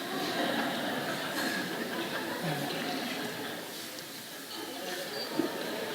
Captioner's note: laughter